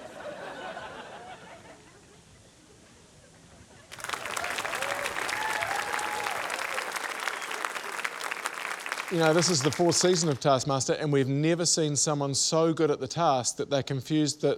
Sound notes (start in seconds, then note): 3.9 applause, cheering